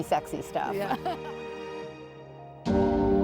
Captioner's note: laughing